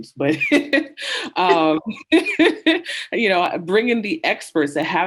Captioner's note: women giggling